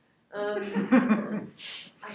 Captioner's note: laughing